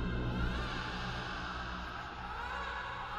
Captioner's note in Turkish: Bebek ağlaması